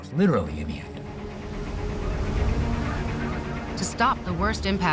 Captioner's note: birds squawking